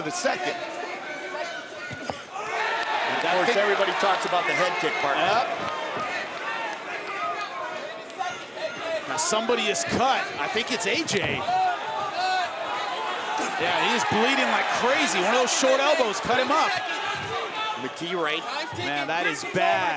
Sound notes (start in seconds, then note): 2.4 audience cheers